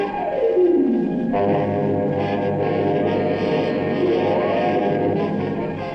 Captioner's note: airplane engine